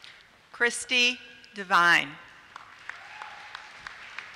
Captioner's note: applause